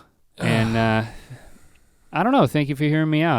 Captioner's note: Rhett sighs